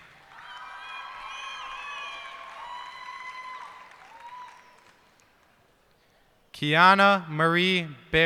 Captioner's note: cheers and applause